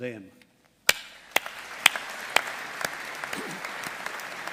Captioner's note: all applauding